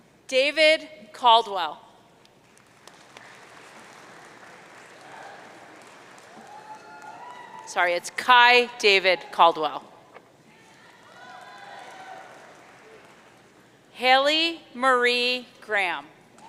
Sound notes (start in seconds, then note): 2.3 audience cheering; 10.7 audience cheering